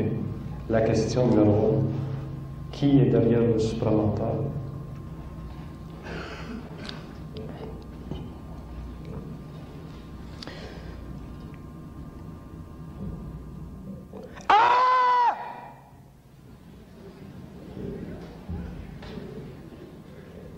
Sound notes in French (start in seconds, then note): 14.3 pousse un cri; 14.6 rires du public